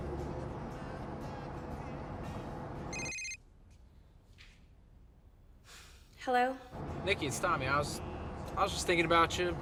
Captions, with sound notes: [phone rings] -Hello. -Nicki, it's Tommy. I was, I was just thinking about you.